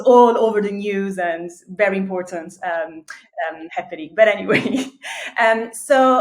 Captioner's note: chuckles